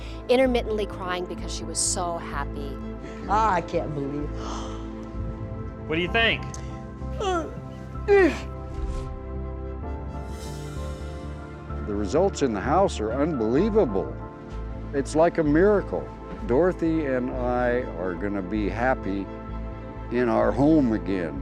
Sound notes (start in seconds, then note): 4.2 gasps; 7.1 crying